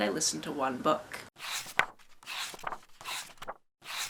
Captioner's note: pages turning